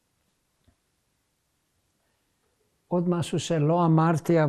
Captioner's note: pauses 10 seconds; hebrew